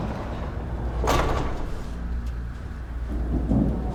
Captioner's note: castors rattle; thunder